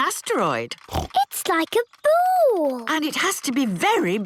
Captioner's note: snorts